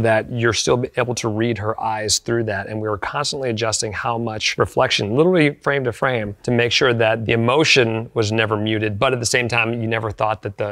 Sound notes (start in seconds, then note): none